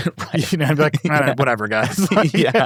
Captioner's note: chuckles